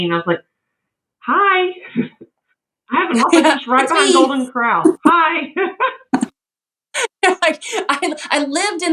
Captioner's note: laugh